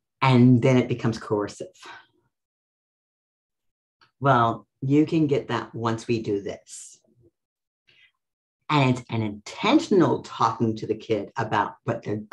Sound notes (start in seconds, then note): none